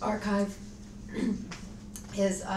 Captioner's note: coughs